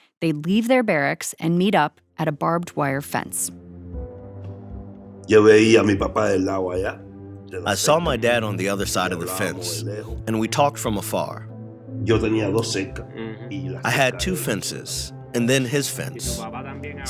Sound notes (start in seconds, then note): 7.2 through translator; 7.7 speaking Spanish; 9.0 through translator; 14.3 through translator